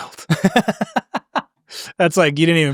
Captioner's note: laughing